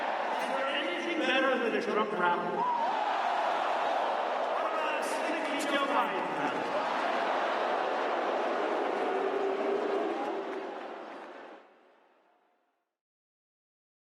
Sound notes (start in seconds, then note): 6.7 crowd boos